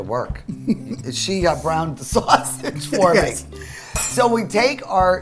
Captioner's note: laughs